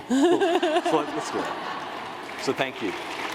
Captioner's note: laughter